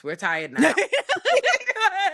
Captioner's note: laughing